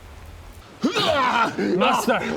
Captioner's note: hrrghah